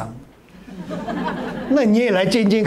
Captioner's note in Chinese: 哈哈哈